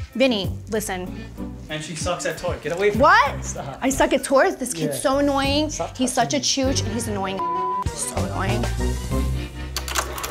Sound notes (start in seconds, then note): 7.4 computer bleeps